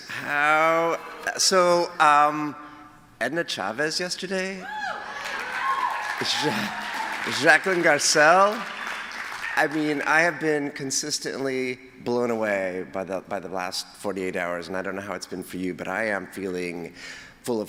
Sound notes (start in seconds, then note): 4.6 cheers; 8.8 applause